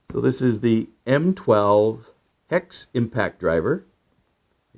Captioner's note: none